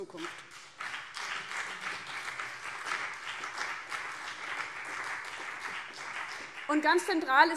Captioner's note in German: Beifall BÜNDNIS 90/DIE GRÜNEN und CDU